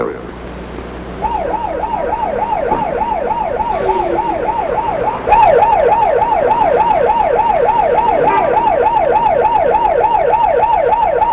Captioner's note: sirens and whistles